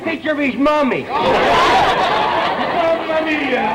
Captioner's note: audience laughter